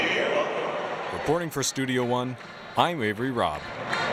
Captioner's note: voiceover